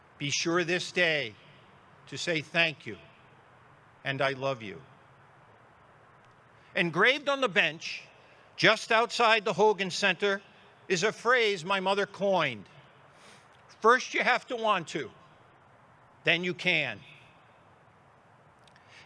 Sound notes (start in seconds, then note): none